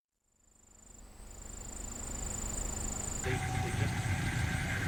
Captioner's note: bugs chirping